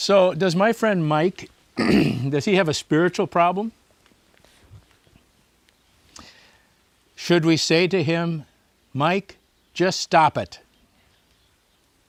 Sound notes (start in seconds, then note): 1.8 clears throat